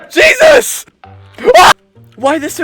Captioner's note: scream of Terror